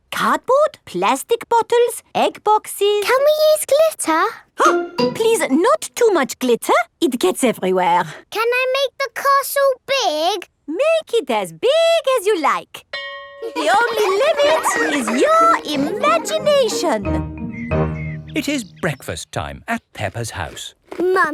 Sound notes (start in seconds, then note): 12.9 school bell rings; 13.4 children laughing